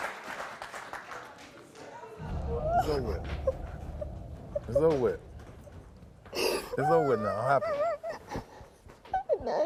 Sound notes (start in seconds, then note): 3.1 cries